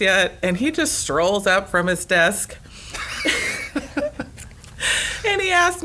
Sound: laughs

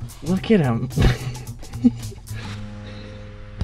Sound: laughing; playful flute music

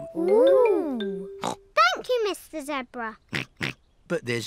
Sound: snorts

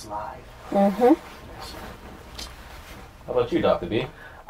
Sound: sounds of agreement

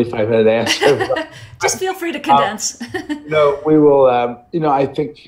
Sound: laughs

